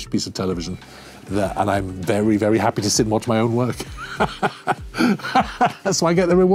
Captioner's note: laughs